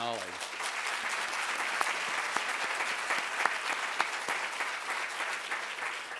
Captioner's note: applause